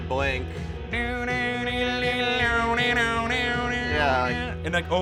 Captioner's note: imitating guitar sounds